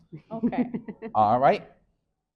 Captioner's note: laughing